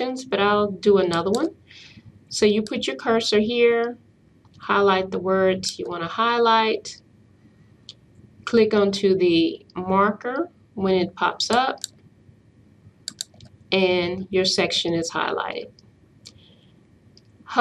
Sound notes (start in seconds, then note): 13.0 hear click